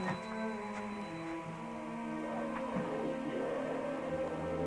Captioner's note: roaring